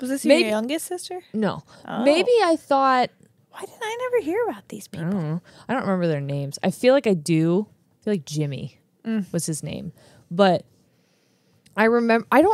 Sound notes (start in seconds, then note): none